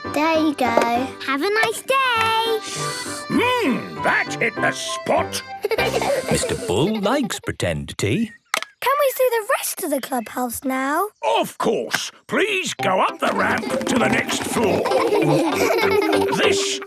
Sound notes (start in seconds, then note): 3.0 slurping; 5.6 giggling; 15.4 laughing